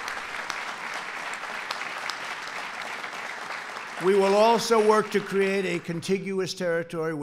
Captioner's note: applause